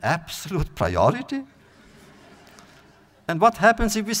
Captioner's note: audience laughter